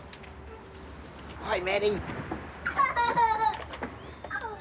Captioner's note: giggles